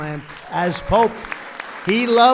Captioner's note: applause